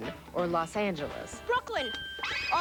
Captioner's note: bell rings